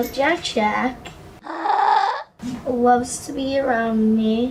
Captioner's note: happy vocalizations